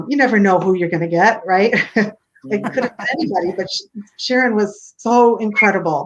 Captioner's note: laughter